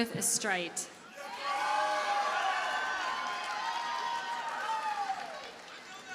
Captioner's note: audience cheers and applauds